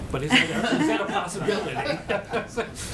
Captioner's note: laughter